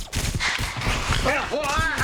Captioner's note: electrical crackling